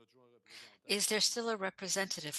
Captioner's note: speaking French